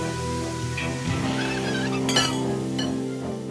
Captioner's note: horseshoe creaks